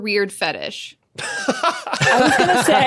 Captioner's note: laughs